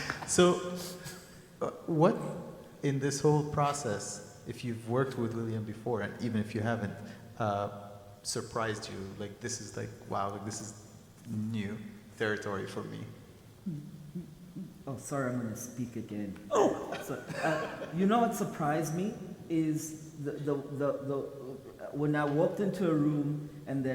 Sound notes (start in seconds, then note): 16.5 groans; 16.6 people laugh